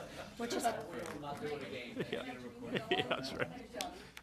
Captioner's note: laughter